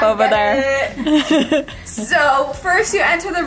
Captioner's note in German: lacht